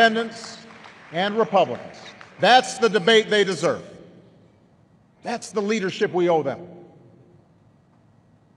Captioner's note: applause